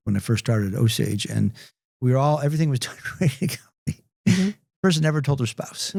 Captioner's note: laughs